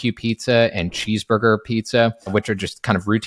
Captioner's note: screen clicking